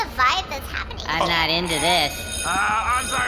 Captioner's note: sound studio bell rings